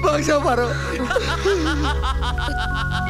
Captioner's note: Shiva laughs